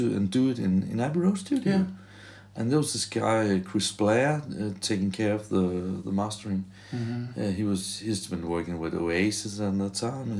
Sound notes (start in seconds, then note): none